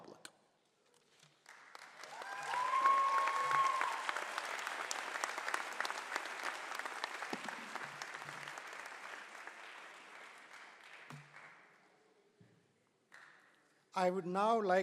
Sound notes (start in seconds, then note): 1.5 cheering and applause